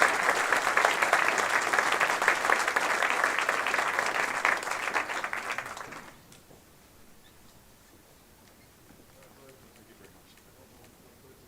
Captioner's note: applause